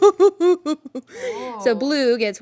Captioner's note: laughing